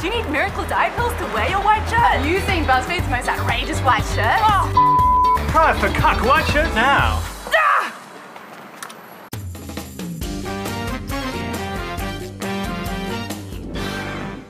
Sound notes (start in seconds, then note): 7.0 shrieks